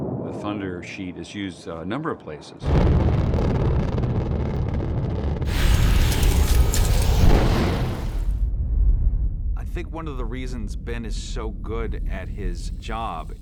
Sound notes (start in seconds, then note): 2.6 rumbling